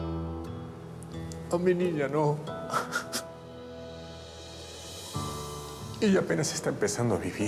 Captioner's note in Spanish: Sollozos